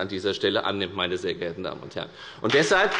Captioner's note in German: Beifall bei der FDP